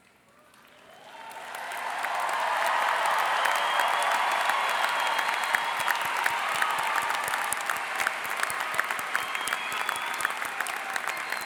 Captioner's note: cheering and Applause